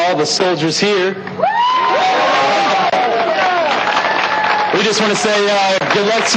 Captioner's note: cheering